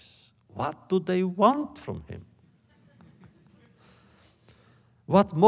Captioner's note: laughter